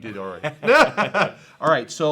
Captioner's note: both laughing